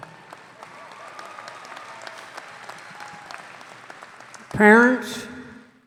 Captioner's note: audience applauding